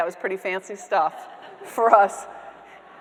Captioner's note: audience members laughing